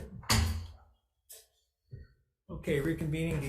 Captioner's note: gavel thuds